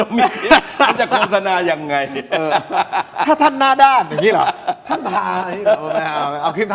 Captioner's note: laughs